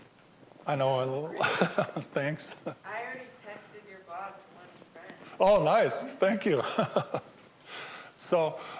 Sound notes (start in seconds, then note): 6.5 laughing